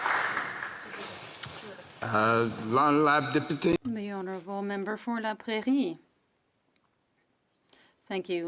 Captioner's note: some Applause